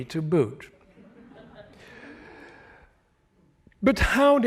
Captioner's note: chuckling